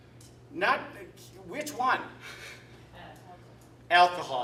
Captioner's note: chuckle